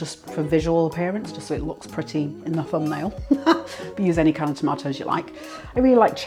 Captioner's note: laughs